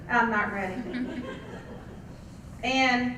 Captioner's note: laugh